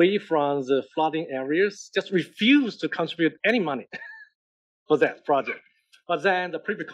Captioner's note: laugh